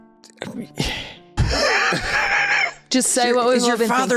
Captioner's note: laughs Like a Serial Killer